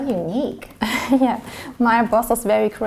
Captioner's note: chuckles